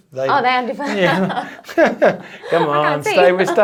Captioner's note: both laugh